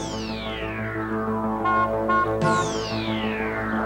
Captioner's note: honks horn